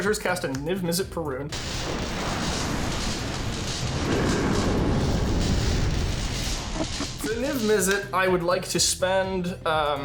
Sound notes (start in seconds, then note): 1.5 thunder rumbling; 1.5 electricity crackling; 4.0 Niv-Mizzet growling